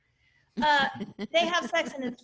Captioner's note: laughing